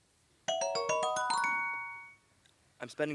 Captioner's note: dings